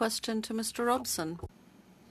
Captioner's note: speaking French